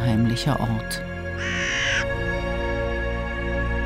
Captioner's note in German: Eine Krähe krächzt